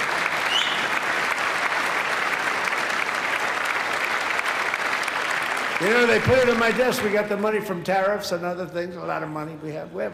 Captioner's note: applause